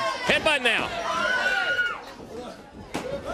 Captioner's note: crowd cheering